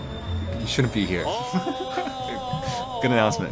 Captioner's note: laughs